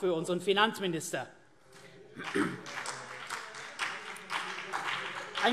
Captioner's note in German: Beifall CDU und BÜNDNIS 90/DIE GRÜNEN